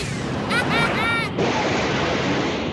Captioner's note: chuckles softly